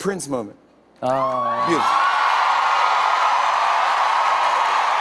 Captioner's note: cheers and applause; cheers and applause continue